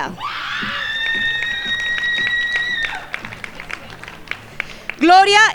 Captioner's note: crowd yelling and applauding